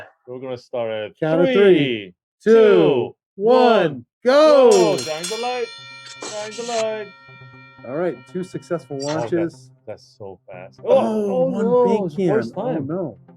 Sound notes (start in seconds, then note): 4.7 bell ringing